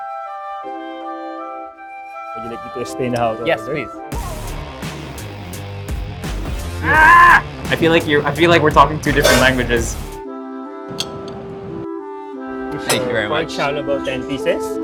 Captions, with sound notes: - Would you like me to explain how to order? - Yes, please. (grunts) I feel like we're talking two different languages. Thank you very much. - Pork xiaolongbao 10 pieces.